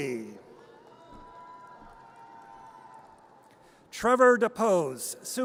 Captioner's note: audience cheers